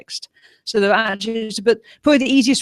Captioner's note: video scrambles